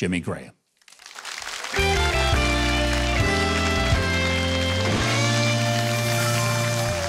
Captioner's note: applause; funky music